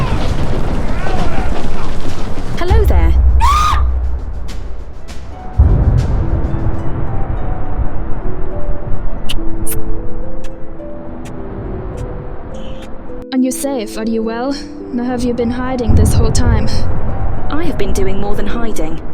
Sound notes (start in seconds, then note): 3.3 Adelaide screams; 9.6 kissing